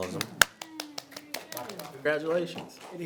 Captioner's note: attendees clap